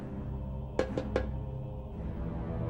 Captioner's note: knock